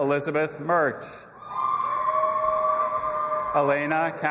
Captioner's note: audience applauding and cheering